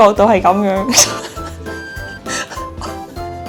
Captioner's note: trying not to laugh